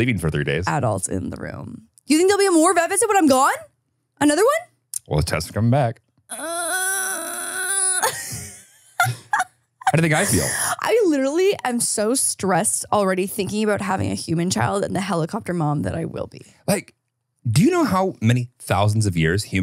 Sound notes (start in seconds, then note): 6.3 groans; 7.8 laughs